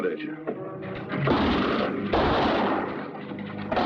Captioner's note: firing twice